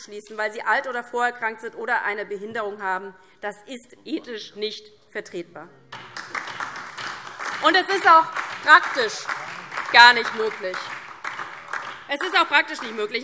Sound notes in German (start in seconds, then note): 5.9 Beifall DIE LINKE und vereinzelt SPD